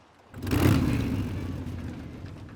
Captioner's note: engine rumbles